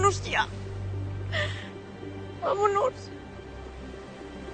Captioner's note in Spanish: Sollozos